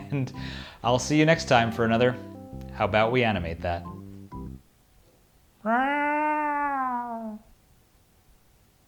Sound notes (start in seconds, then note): 5.6 growling